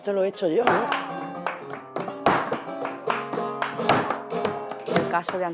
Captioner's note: Palmadas; clapping